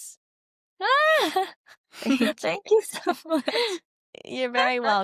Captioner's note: laughs